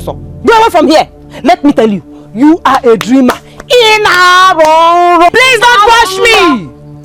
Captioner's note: screaming